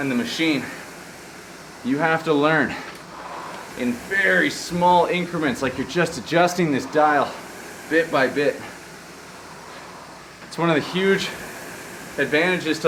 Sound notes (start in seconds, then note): none